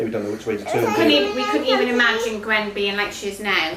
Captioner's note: chatting in background